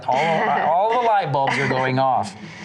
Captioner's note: laughs